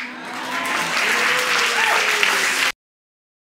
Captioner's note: audience clapping